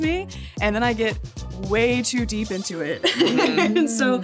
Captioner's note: laughs